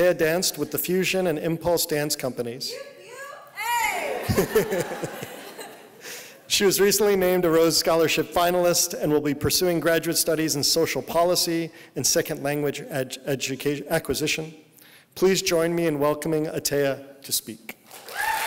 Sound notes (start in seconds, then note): 3.1 whooping; 3.6 laughing; 17.9 applause